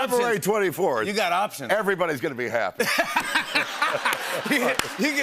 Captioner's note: laughter